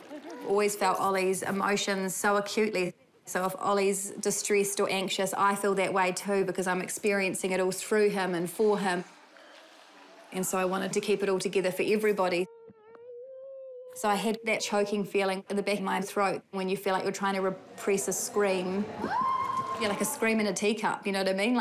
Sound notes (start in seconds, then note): 19.0 exclaims